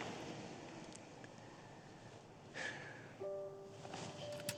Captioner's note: sighs; soft music